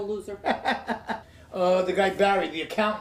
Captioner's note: laughing